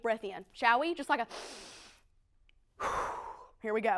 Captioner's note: inhales/exhales